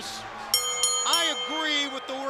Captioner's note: bell ringing